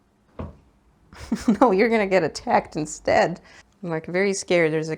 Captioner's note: giggles